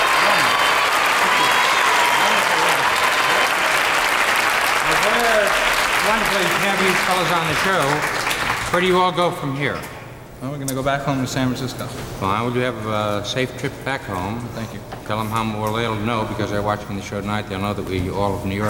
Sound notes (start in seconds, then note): 0.0 audience cheering; 3.7 audience applauding